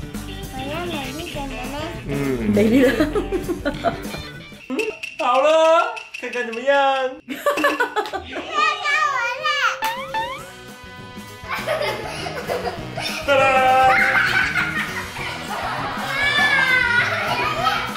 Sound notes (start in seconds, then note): 9.9 weeping